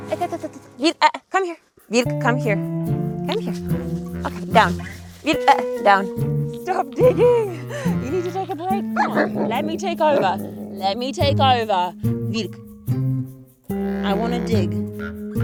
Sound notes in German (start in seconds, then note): 7.5 skurrile Musik; 9.0 Hund grunzt